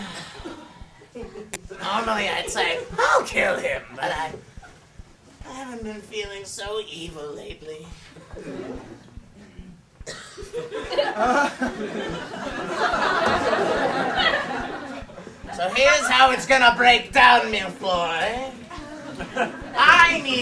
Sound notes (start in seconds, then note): 0.0 sighs